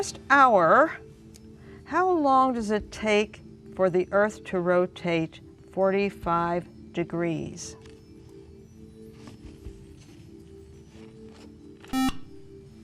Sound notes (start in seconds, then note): 10.3 beep